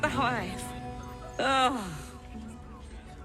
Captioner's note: sighs